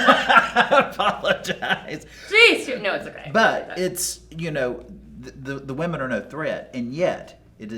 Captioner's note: laughing